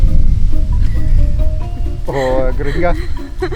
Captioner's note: laughs